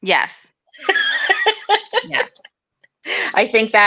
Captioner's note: laughs